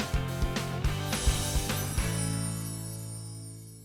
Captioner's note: chiming